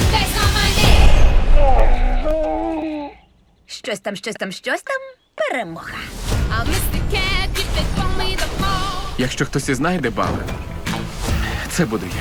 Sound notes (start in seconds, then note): 1.5 Ballister groaning